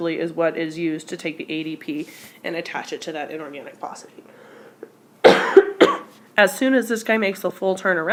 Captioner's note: cough